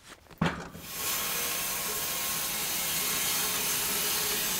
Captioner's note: machine sawing